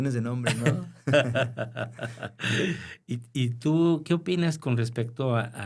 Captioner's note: laughter